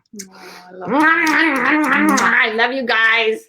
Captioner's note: blowing kisses